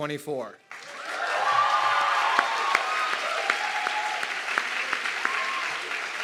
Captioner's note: audience clapping and cheering